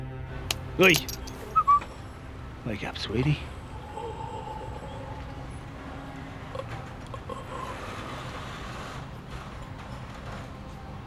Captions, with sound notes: Oi! Wake up sweetie! [Bao groans]